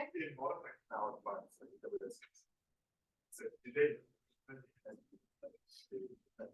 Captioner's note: audio distorts